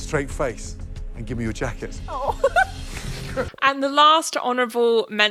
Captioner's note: giggles